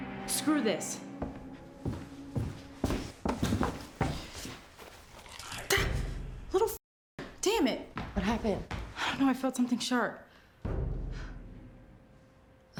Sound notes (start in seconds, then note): 5.8 gasps; 10.6 sinister music